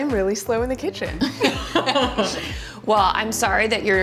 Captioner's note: laughing